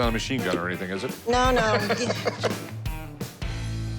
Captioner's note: laughs